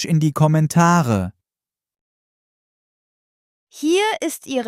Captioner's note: in German